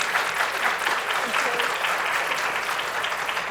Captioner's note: applause